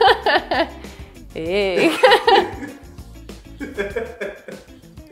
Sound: laughs

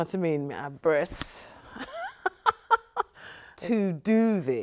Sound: chuckles

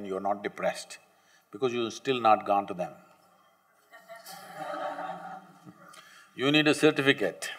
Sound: laughter

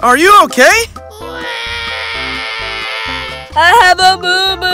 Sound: baby crying

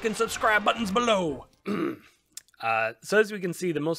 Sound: ahem

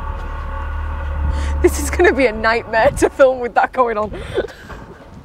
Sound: loud, Groaning, Metal Scraping Noise

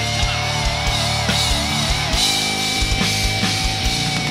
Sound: crowd cheering

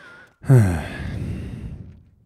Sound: sigh

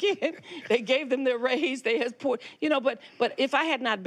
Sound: Shirley laughs

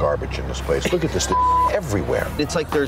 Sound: beep

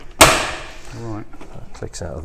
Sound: housing snaps

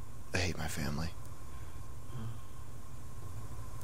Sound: sigh

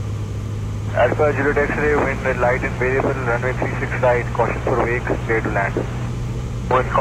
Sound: turbulence

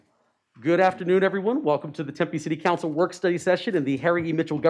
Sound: gavel

